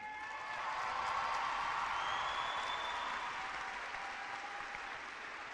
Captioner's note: clapping and cheering